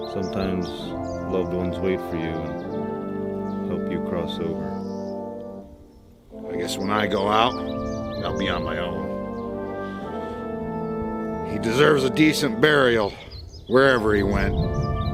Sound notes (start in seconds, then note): none